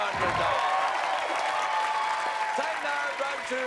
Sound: cheers and applause

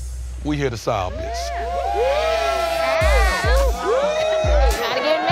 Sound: all cheer

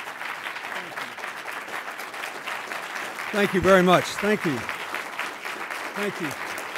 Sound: applause

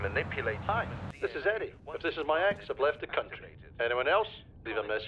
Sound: phone rings

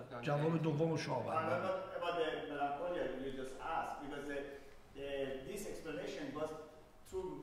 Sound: speaking in farsi

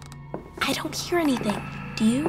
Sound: footsteps, stairs creaking; whispering

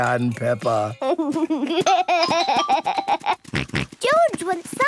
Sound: giggles, snorts

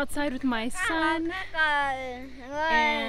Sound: childish gibberish

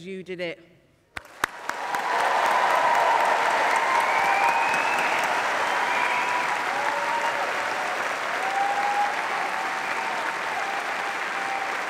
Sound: applause

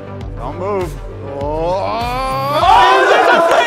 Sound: oohs

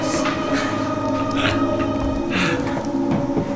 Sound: chuckles

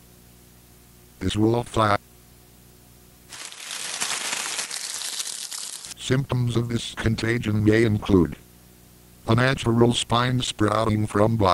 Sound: leaves crunching

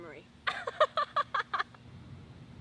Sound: laughs

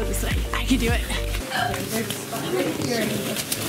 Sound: hiccups

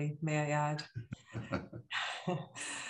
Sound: chuckles

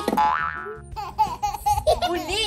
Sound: baby giggles

